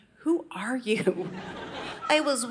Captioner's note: audience laughing